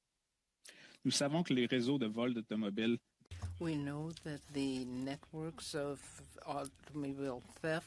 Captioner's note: speaking French